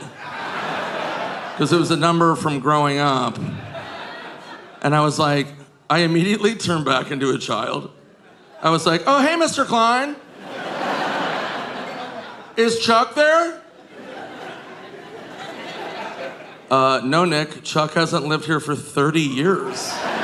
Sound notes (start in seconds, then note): 10.2 audience laughing